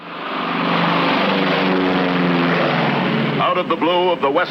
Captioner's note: airplane engine roaring